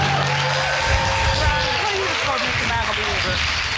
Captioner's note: audience cheering and applauding